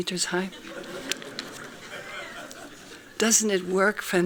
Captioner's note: laughing